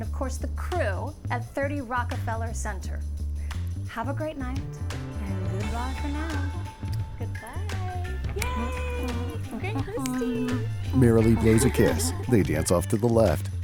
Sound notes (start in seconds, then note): 8.4 humming; 11.4 laughs